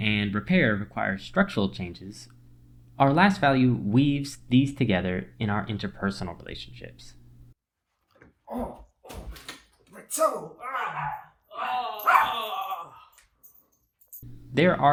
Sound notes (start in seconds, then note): 10.1 pain noises; 12.0 dog barking